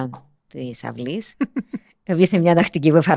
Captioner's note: he laughs